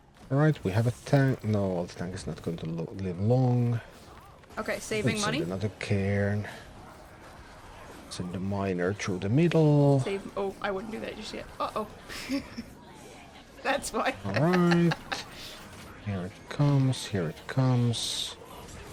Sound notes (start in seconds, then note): 12.0 chuckles; 14.0 laughs